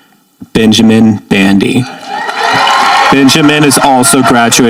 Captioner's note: audience applauding